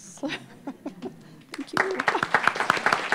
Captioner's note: applause